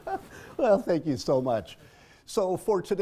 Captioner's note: laugh